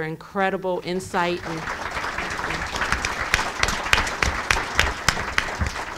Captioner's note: audience applauds loudly